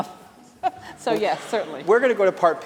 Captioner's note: laughter